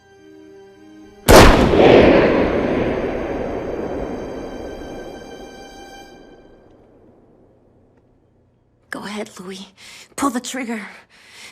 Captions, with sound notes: [music crescendos] [gun shot echoes] [music stops] Go ahead, Loui. Pull the trigger.